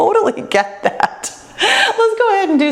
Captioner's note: laughs